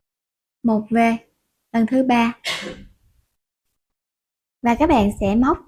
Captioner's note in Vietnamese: hắng giọng